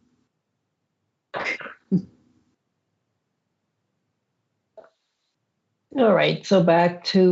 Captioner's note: laughs